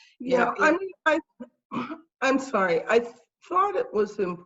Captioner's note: clearing throat